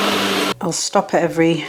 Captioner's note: blender roaring